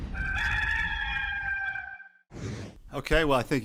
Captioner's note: cock crowing